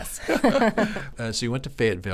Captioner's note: both laughing